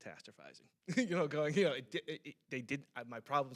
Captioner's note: stammering